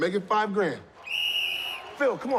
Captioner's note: whistle blows